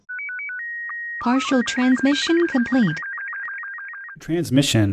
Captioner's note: voiceover